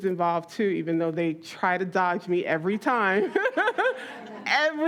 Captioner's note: laughs